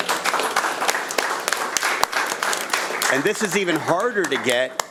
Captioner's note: audience applauding